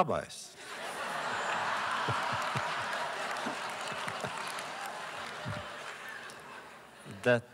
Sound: laughter; applause

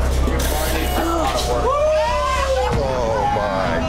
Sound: gasps; exclaiming

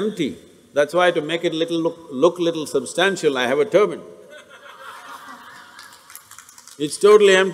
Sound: laughter/Applause

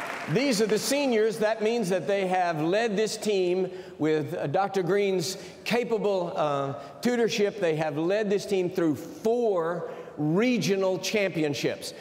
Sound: cheers and applause

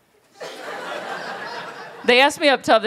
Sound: laughter

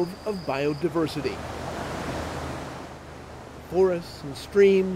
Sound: creek rushes

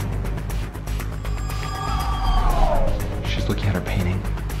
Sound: intense eerie sounds

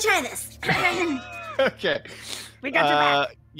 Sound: clears throat; laughs

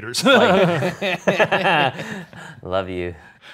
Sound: all laugh

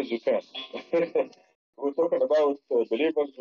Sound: laughs

